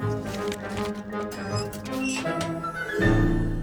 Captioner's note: creaks